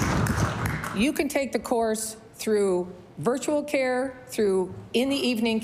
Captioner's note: applause